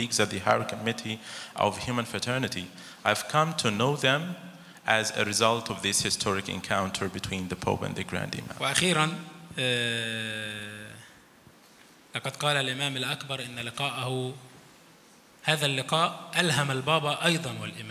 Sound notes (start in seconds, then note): 8.8 speaks in foreign language